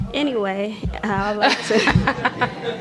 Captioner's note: laughter